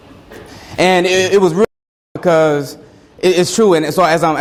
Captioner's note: audio skips